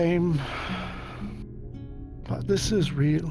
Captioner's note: sighs